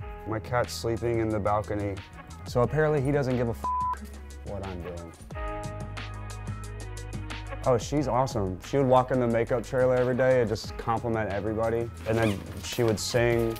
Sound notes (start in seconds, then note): 3.6 beep; 5.4 upbeat music